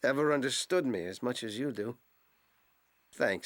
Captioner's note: none